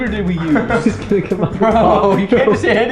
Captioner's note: chuckles